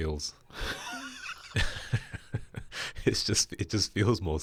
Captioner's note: both laughing